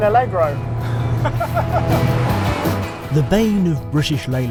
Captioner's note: laughs